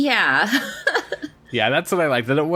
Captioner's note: laughs